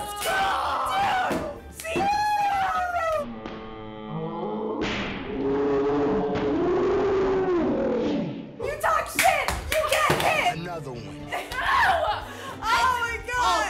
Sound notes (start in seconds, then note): 3.1 screaming in slow-mo; 5.3 shrieking in slow-mo; 11.8 screaming angrily